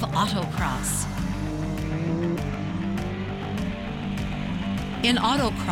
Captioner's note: loud motor sounds